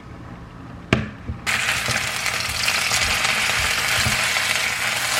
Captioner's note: grilling